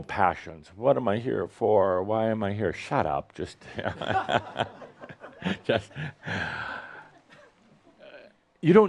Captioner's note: Adamus chuckles